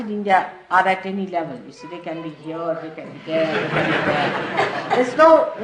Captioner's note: laughter